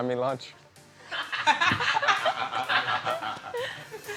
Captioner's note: laughter